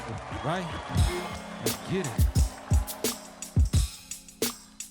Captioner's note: audience cheers; mellow hip hop music